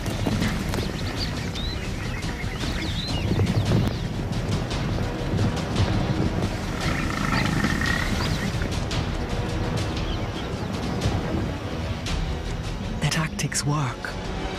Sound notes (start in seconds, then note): 6.6 grunting